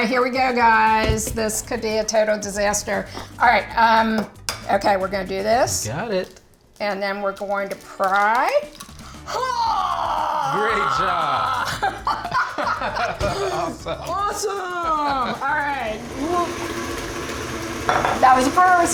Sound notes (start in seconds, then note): 6.2 egg cracks; 9.2 exclaims; 12.0 laughing; 15.1 mixer whirring